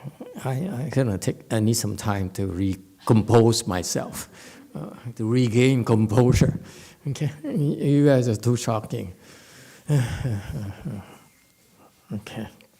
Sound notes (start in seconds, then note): 9.8 sighs